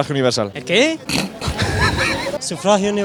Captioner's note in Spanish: risa